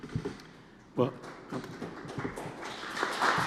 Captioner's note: applause